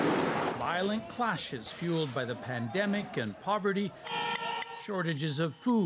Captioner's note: gunshots